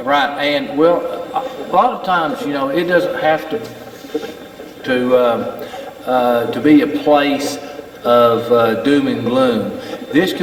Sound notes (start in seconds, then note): 3.8 Steve's Box chatters